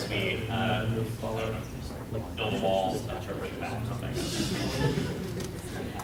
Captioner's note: laughter